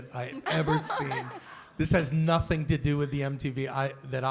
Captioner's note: laughter